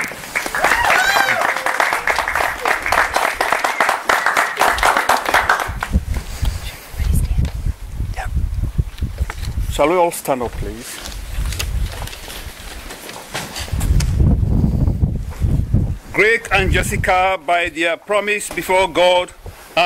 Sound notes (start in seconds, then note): 0.0 applause; 6.9 whispering